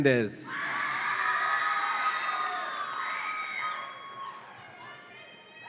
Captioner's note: audience applauds and cheers